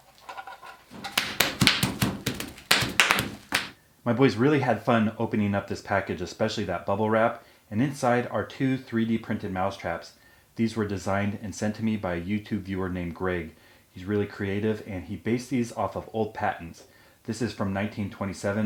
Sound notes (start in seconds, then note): 1.0 bubble wrap popping